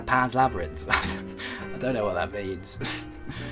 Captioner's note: chuckles